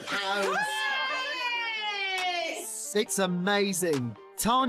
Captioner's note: group cheers